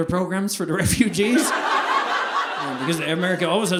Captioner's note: audience laughing